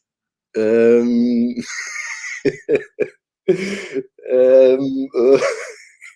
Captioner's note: laughs bashfully